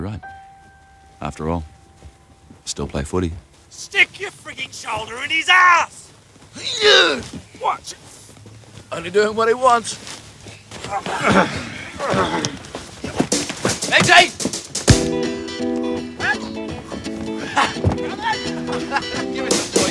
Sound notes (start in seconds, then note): 6.5 grunts; 10.6 players grunting